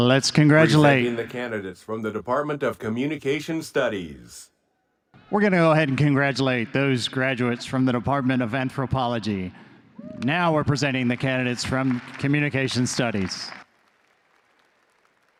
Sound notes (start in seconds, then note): 13.4 audience applause